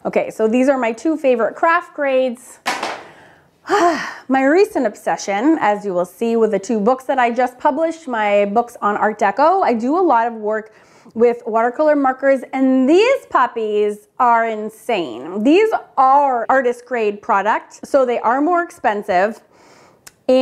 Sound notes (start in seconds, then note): 2.6 markers clatter; 3.7 sighs